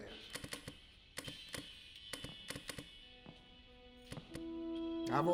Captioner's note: flipping switches